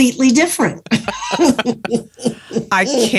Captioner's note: laughs